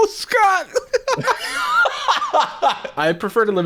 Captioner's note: laughing